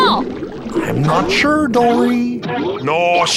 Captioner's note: obnoxious bouncing noise; obnoxious bouncing noise continues